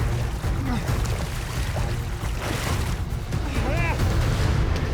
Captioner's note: gasping